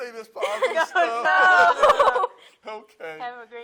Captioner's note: laughs